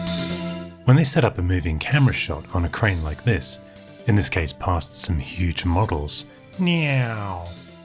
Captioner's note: makes "neow" sound effect